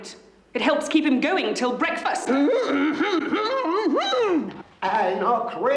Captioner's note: he grunts